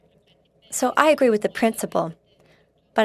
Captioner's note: speaking French